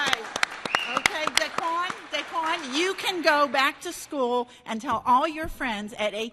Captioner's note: applause